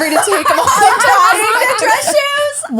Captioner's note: laughing